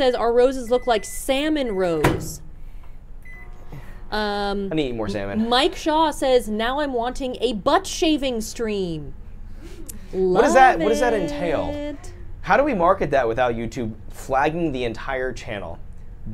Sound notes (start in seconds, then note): 1.8 microwave bangs; 3.2 microwave beeps